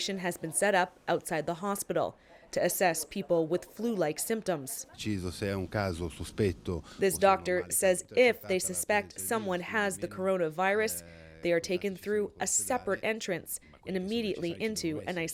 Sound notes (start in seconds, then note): 10.4 speaking Foreign Language